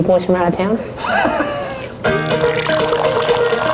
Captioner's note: laughs; cheerful music